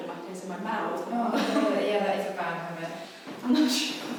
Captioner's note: laughing